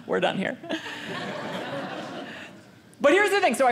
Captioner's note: audience laughing